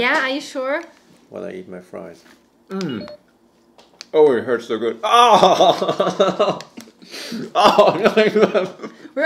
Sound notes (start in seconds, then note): 5.2 groans